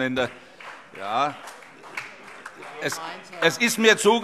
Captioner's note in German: Vereinzelter Beifall